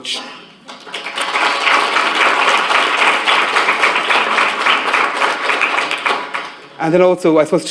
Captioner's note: applause